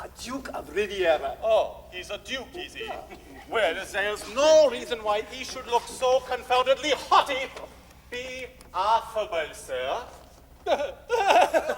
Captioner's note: laughter